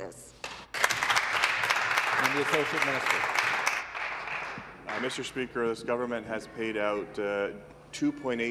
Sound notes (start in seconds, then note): 4.0 some Applause